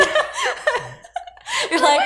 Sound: both laughing

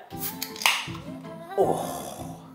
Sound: can clicks

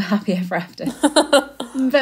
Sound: laughing

